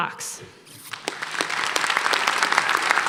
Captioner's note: applause